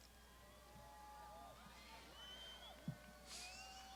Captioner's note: graduates shouting